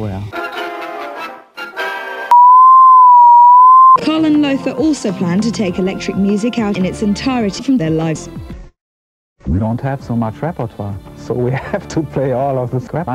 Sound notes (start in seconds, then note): 2.3 ANOTHER distorted sine wave